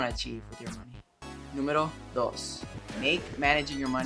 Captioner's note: Spanish